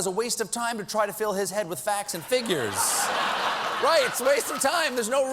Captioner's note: laughter